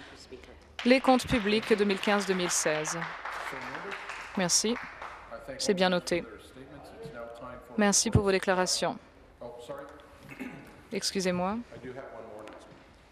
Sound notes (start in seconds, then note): 5.7 some applause